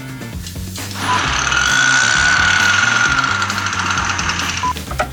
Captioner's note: laughs; chainsaw noise